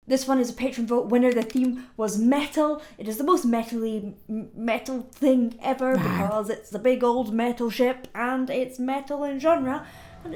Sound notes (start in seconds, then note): 5.9 monster growling